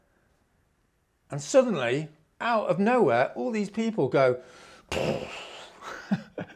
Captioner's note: aggressive exhale